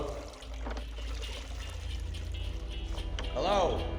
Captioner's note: water sloshing